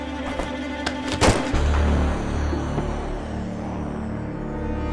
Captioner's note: gun shot